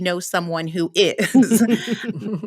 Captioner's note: laughter